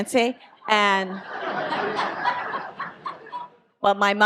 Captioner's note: audience laughs